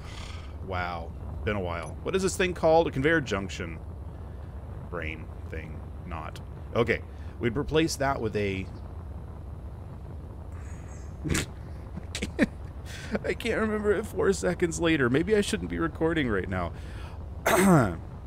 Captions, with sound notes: wow, been a while. What is this thing called a conveyor "junction"? Brain...thing...not. Okay. We've replaced that with a... *exasperated huff* I ca..*self directed scoff* I can't remember it four seconds later. Maybe I shouldn't be recording right now. *Ahem*